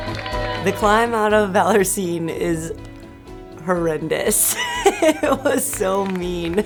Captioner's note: laughs